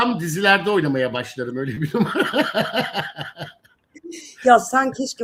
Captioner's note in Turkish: kahkaha